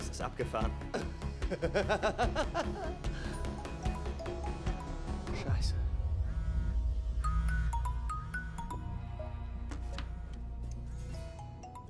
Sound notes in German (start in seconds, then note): 1.4 lacht; 2.4 handy klingelt; 5.4 handy vibriert; 6.9 klingeln hält an